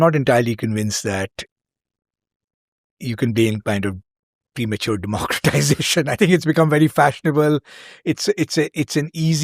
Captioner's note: chuckles